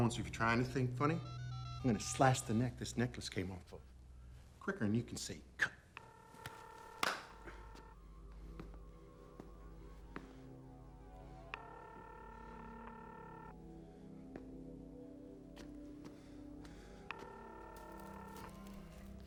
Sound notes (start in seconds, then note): 7.7 phone dialing; 7.7 tense music